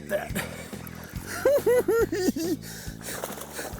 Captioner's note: cackling